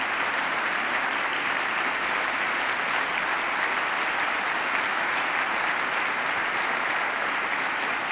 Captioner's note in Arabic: تصفيق